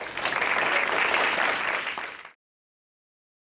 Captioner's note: applause